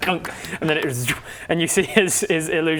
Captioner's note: clunk; zwoop